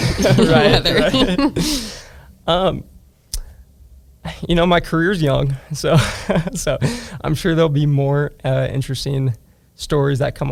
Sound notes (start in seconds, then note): 0.0 hosts laughing; 6.5 laughs